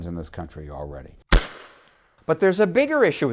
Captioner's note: gun fires